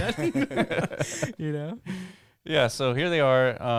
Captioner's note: laughing